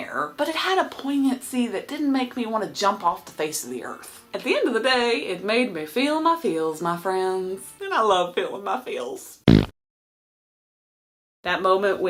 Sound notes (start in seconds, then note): 9.4 fart noise